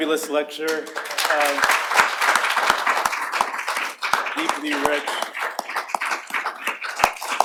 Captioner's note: applause